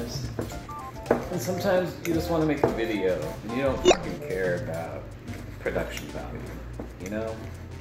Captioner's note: beeping